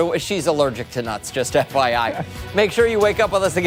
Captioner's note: laughter